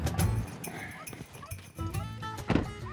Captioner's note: puppies barking